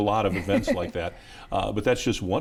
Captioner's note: laughs